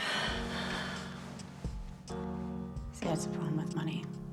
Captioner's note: Lynn sighs